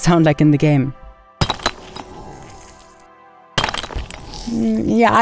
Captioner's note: blocks shattering